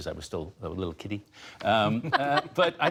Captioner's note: laughter